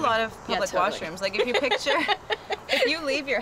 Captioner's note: laughter